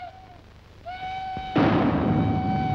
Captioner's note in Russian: звук выстрела